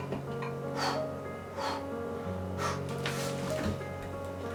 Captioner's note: exhales